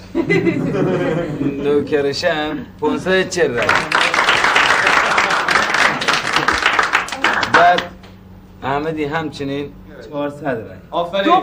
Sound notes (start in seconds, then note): 0.0 people laughing; 1.5 speaking foreign language; 3.5 people applauding; 7.6 speaking foreign language